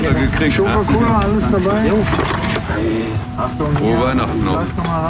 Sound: wind

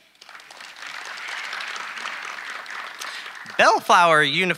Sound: audience applauding

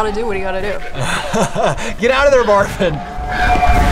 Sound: laughs

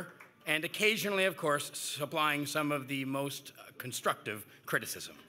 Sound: applause

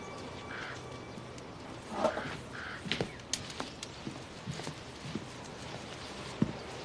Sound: door closes

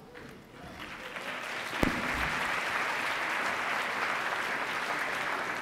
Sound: attendees applauding

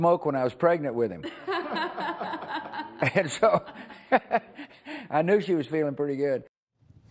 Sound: laughter; laughs

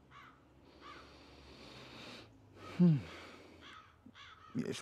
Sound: Kwabena sighs

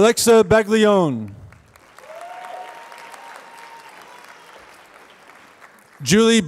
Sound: applause

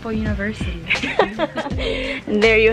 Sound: giggles

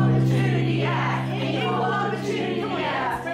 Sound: all chanting

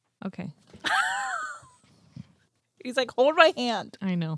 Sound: lauging

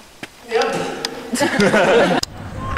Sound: laughter

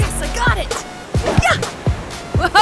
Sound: grunts

